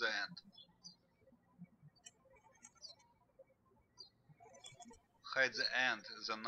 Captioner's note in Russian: птички щебечут